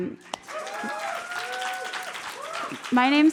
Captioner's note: applause